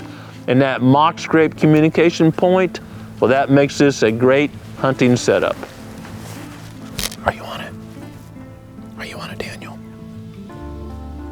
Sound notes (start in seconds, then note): 6.6 whispering